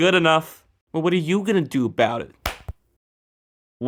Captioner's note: slap